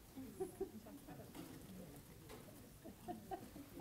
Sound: laughing

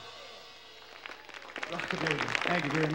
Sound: audience applauding

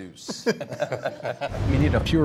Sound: everyone laughs

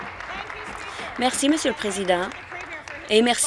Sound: applause

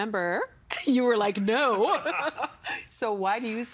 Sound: laughing

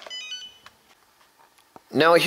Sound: start-up beeps

